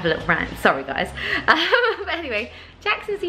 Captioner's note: laughs